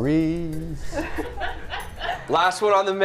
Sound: laughter

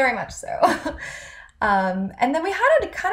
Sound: chuckles

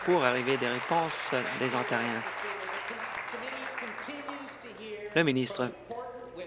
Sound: applause

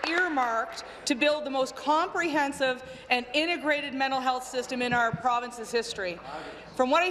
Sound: applause

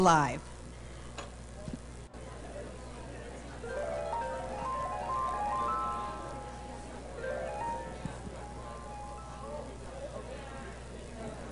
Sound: background chatter

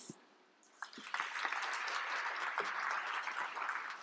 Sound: applause

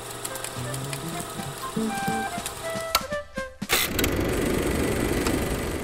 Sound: projector clicking; upbeat music

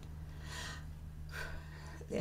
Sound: breathe

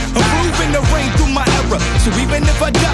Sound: players cheering

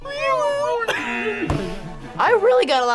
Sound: laughs; buzzer

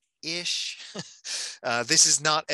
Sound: chuckling

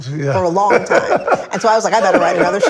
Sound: laughs

